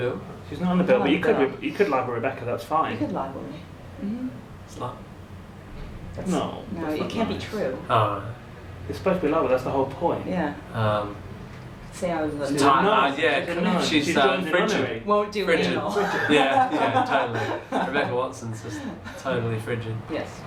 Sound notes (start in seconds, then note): 4.3 quietly